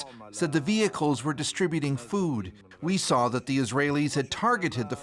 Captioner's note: speaking alternate language